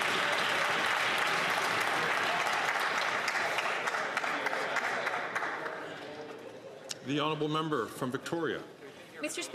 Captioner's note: some Applause